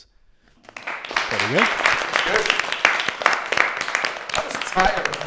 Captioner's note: applause